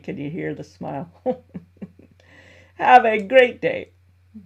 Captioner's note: laughs